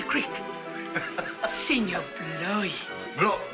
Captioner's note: hoppy laughs